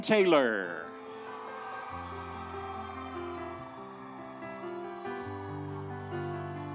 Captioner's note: audience cheering; instrumental music